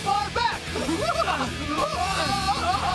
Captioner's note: yelling